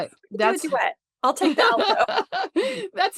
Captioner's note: laughs